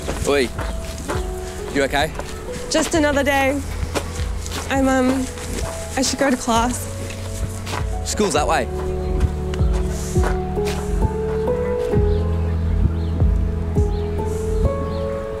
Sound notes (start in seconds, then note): 8.9 sighs; 12.6 somber music